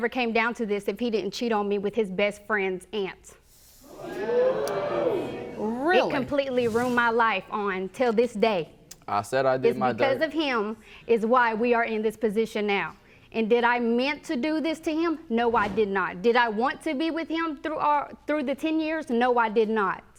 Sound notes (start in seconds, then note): 3.9 audience jeering